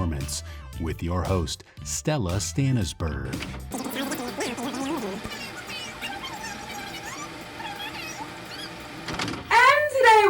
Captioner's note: fast forward sound